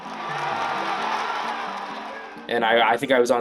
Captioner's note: cheering